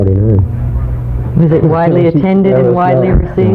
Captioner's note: laughs